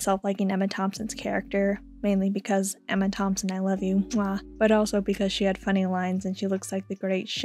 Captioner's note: mwah